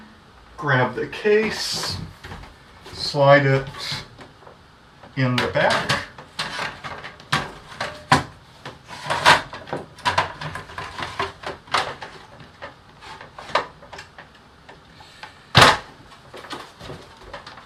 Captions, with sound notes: Grab the case. Slide it in the back. [metal-on-metal sliding noise, ending with a small thud]